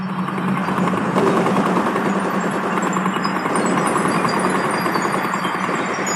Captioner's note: rapid machine gun fire